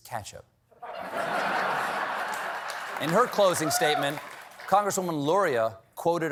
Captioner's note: laughter